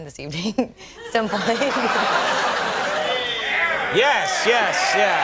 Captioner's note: audience laughing